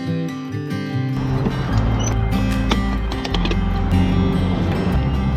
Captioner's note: wind whirring